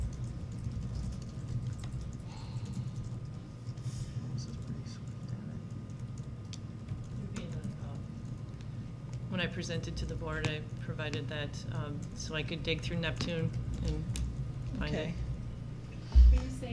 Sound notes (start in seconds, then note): 4.0 board members whispering